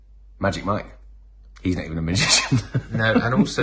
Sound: laughs

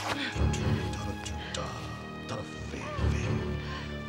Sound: non-english speech

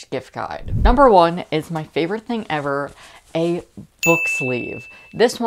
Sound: bell Dinging

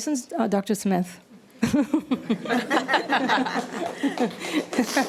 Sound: all laughing

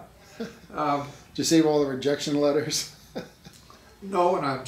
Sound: laughs

